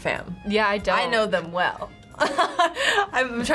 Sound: laughs

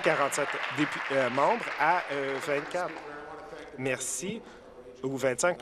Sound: applause

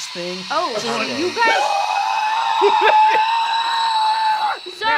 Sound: elemental screeching

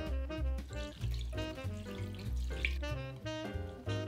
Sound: liquid pouring

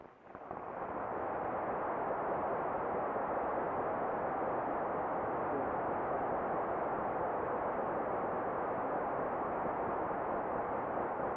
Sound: applause

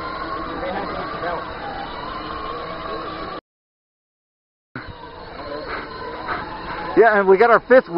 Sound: robot motor noise

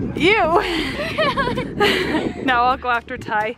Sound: giggling

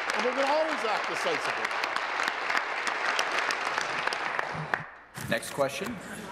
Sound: applause

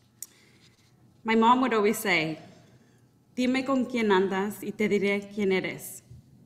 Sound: speaking in Spanish

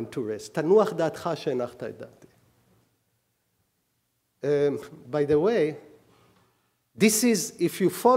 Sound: speaking hebrew

